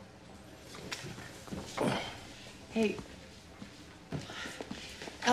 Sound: sighs

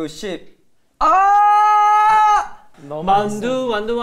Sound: roar

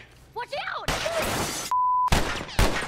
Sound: gunshots

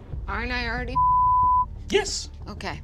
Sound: beep

